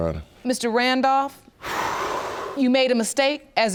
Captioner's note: exhales